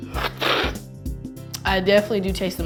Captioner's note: slurping